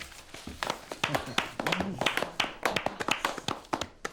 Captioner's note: players applauding